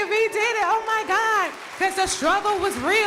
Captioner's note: crowd applauding